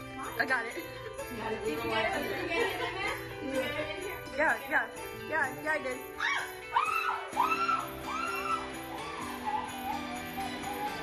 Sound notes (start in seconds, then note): 6.7 screaming